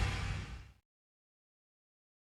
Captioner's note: air swohiosng